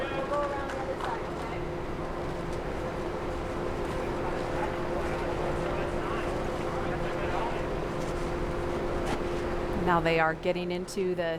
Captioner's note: applause